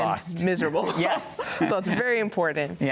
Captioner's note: both chuckling